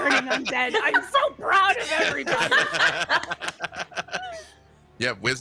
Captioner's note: people laughing